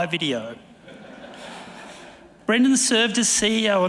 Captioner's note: audience laughing